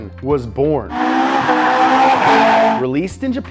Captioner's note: car engine revving